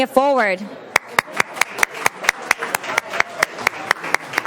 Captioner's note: applause